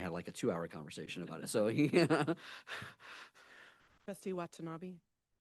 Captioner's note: laughs